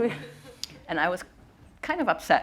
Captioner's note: audience chuckling